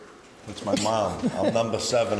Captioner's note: laughs